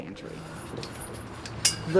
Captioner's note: metal clanging